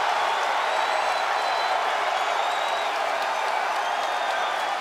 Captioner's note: crowd cheering